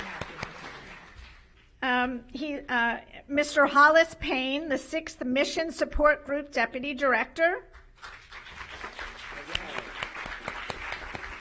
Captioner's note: applause